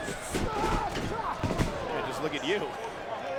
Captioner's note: Goldust yells